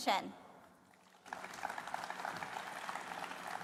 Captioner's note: applause